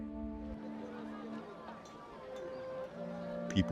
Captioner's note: agitated crowd noise